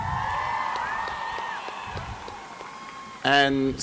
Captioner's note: cheering